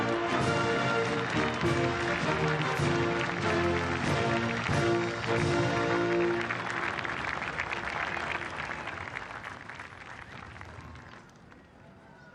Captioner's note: cheering; band playing